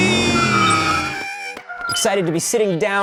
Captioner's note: squawk